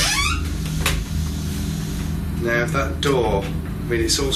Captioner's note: door creaks